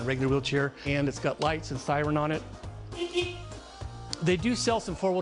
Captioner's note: beep beep